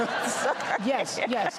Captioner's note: laughter